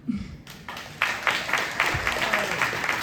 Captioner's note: applause